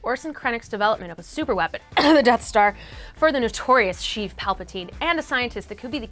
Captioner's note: cough